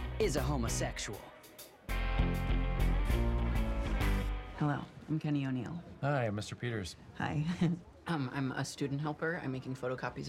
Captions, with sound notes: This man is a homosexual. Hello. I'm Kenny O'Neal. Hi. I'm Mr. Peters. Hi. [ Chuckles ] Um, I'm a student helper. I'm making photocopies of résumés